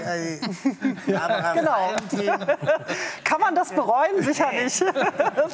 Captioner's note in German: lachend